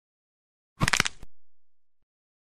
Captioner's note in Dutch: gekraak van een bot